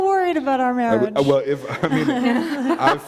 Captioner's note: laughter